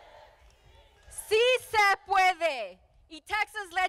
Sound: speaking in foreign language

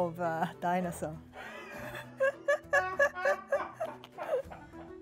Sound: everyone laughing

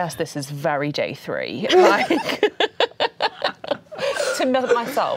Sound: laughing

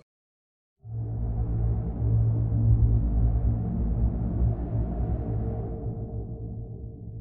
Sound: bass rumble

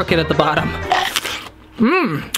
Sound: chomping

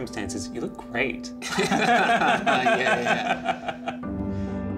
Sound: both laughing

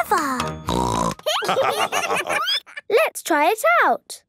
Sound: snorting; laughter

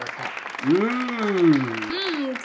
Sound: clapping

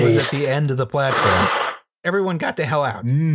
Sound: sucks in breath

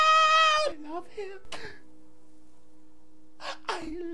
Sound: crying

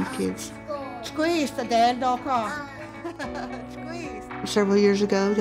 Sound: speaking to class in Cherokee, laughs

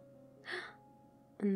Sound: gasp

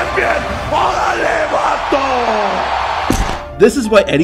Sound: Eddie speaks foreign language

